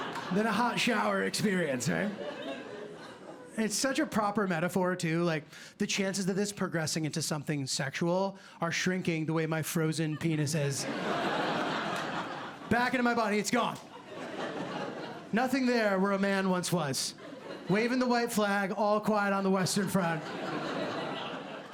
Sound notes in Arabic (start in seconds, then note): 10.8 ضحك